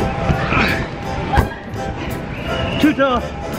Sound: grunting

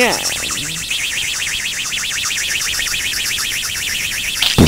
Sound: rocket engine; explosion

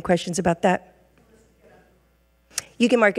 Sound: regent speaking faintly

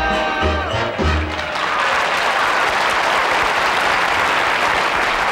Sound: audience applauds

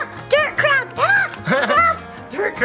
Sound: Barbie Malibu laughing

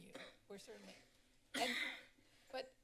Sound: coughs

